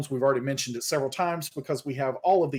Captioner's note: none